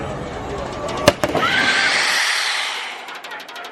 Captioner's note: screeching